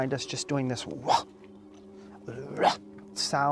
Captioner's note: gruffing